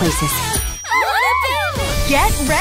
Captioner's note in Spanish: vítores